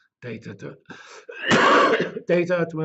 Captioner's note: cough